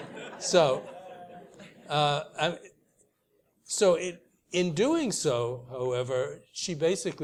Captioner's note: laugh